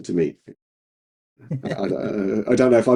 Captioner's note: laughing